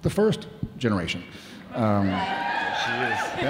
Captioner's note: audience cheering